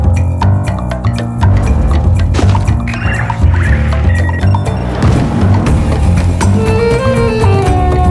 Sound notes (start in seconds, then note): 0.0 dramatic music; 2.8 beeping; 5.0 dramatic music